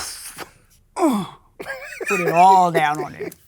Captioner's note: laughs